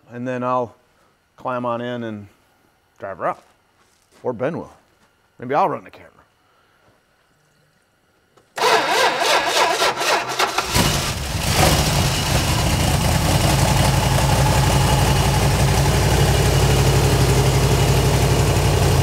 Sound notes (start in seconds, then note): 8.7 ignition stutters; 10.9 engine purrs